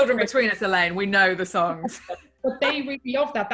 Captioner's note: laughing